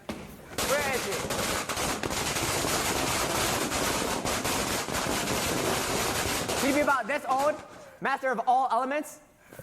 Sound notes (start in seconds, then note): 0.5 firecrackers continue